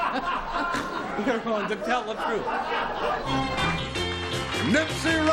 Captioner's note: laughs; theme music